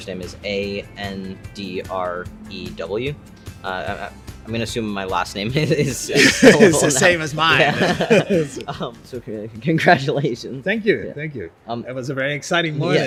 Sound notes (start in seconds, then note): 5.7 laugh